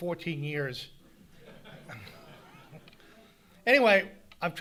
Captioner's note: audience laughing